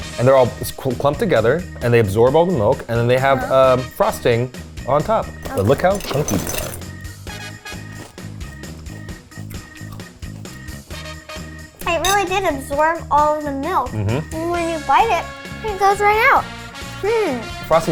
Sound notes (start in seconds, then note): 7.0 upbeat instrumental music; 8.1 cereal crunching